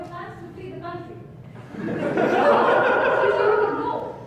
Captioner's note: audience laughs